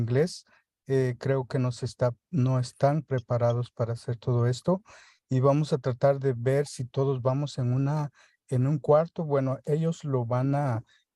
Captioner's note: speaking spanish